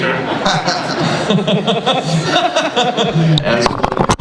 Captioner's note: laughter